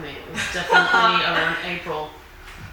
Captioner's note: laughing